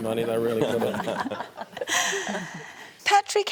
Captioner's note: laughs